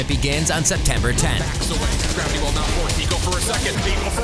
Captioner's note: gunshots